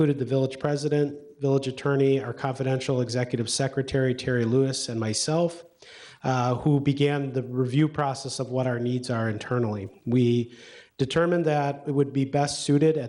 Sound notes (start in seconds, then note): none